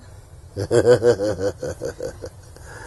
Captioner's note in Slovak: sa smeje